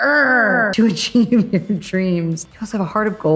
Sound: laughs

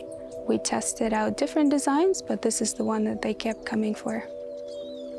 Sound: none

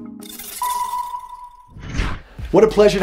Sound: beep echoing; air rushing

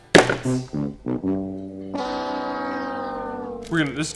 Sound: horn sounds

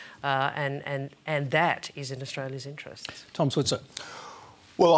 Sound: none

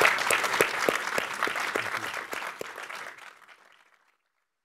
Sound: applause

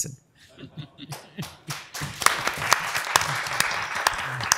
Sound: applause

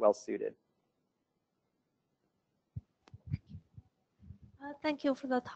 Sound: pause

